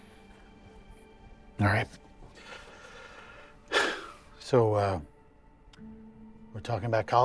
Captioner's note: takes a deep breath